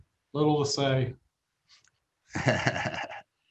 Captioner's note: laughs